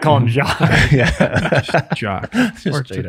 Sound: all laugh

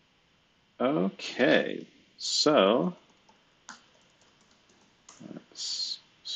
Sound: computer keyboard clicking

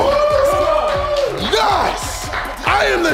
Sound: crowd cheering

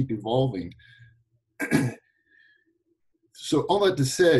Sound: clears throat

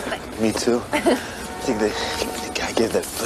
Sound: Meg laughs

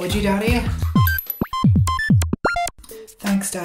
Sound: beeps and boops

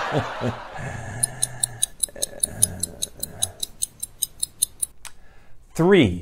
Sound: laughing; clock ticking

